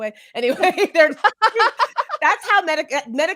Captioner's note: laughs